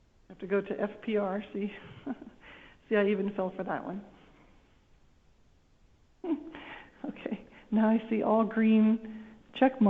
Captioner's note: laughter